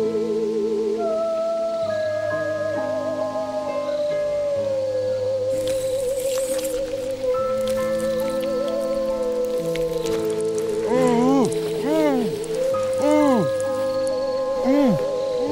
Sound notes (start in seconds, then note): 8.2 blood splattering; 8.2 man groaning